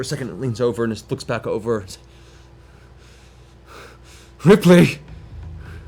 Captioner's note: pained panting